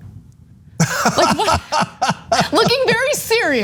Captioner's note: laugh